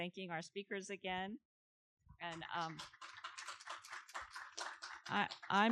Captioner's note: audience clapping